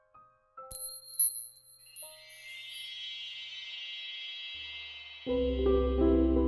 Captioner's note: magical sparkling chime